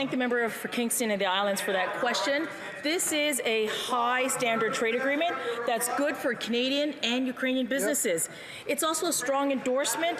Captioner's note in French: voix de l'interprète